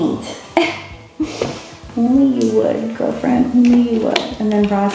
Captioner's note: laughing